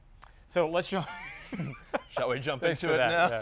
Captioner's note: laughing